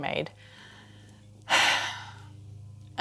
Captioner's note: sighs in patriarchy